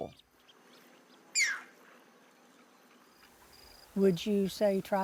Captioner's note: green heron calls